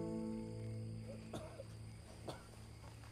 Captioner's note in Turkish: Öksürük sesleri